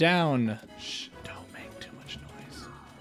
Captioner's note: whisper